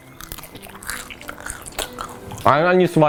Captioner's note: crunching